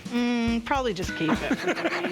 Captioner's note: laughs